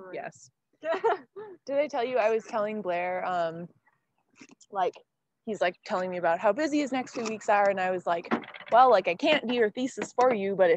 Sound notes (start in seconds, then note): 1.1 laughing